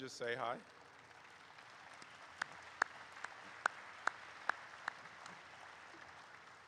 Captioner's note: audience applauds